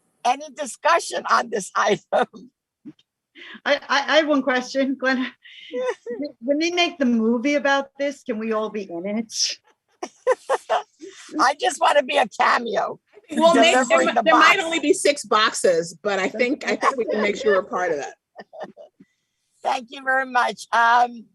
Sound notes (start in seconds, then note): 10.0 laughs; 18.3 chuckles